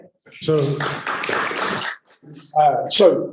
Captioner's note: applause